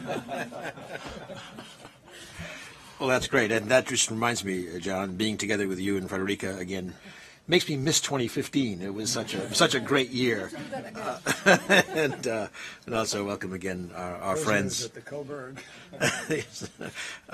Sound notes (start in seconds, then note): 0.0 laughter; 10.2 laughter